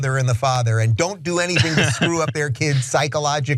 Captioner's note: laugh